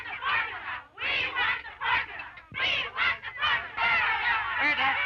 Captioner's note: chanting continues